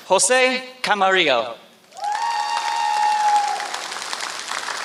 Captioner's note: applause